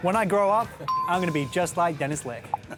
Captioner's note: bell dings